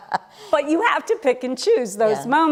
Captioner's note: laughter